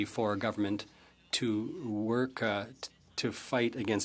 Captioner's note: speaking French